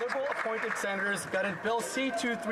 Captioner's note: applause